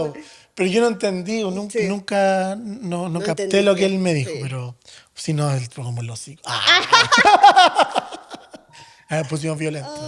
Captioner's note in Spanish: risas